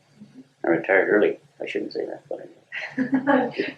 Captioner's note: laughter